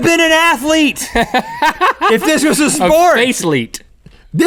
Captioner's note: laughs